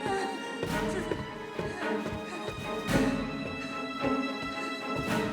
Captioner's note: Freddie breathing heavy